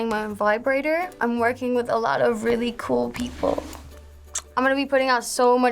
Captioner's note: smooch